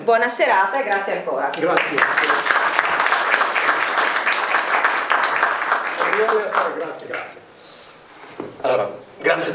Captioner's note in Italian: Applauso